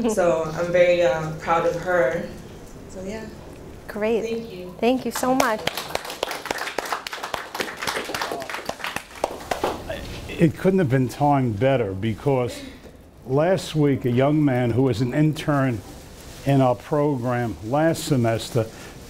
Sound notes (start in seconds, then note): 9.0 claps